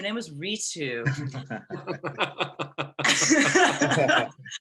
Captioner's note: laughter